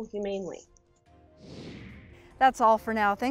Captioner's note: graphics whooshing